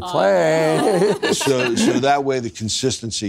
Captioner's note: laughs; laughing